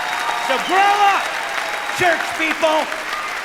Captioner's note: cheering